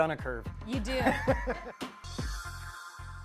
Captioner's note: laughs